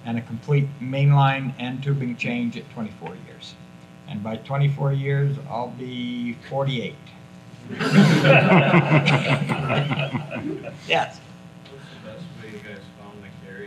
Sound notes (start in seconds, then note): 7.7 everyone laughs